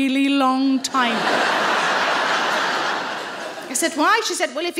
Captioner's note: audience laughing